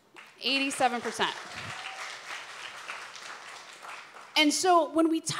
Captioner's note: applause